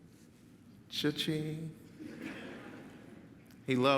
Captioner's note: audience laughs